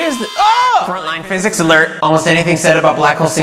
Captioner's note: alarm Noise